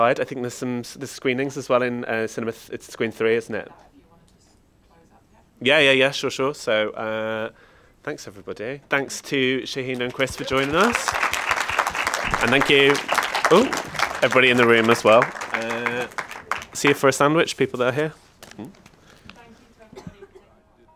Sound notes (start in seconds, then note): 9.8 audience applauds; 20.7 soft music